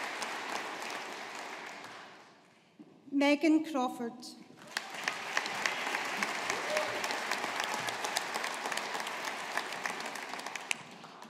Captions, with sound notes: Megan Crawford. (AUDIENCE APPLAUDING)